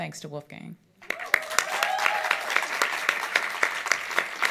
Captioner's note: audience applauds